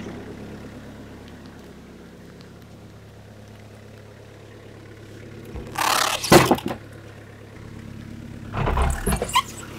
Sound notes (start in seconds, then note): 6.1 wood slab thuds